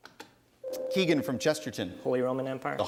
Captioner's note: ding